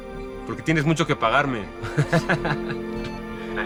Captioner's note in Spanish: Ríe